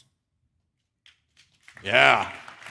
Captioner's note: applause